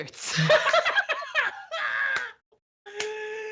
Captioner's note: both laugh